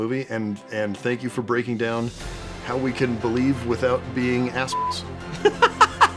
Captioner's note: beeps